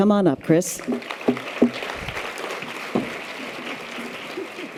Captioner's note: audience applause